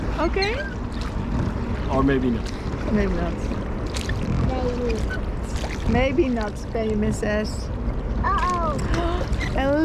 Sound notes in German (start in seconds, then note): 6.9 murmelt